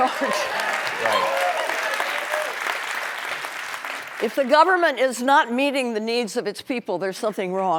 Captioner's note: applause